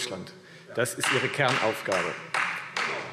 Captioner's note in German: Beifall